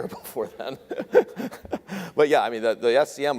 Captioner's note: laughs